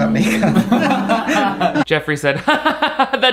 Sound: Shane and Jeffree laugh; laughs

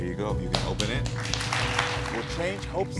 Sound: audience applauding

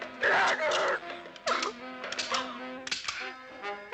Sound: gun clicking

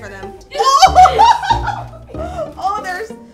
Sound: laughing

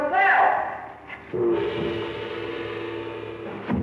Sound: gong crashing

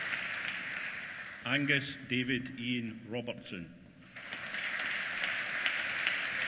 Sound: applause

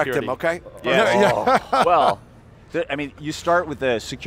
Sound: laughter

